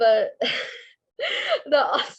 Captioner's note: laughing